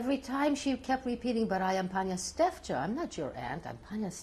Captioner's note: non-english; non-english